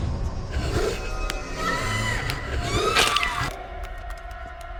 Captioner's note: Marie screams